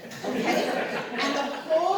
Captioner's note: laughter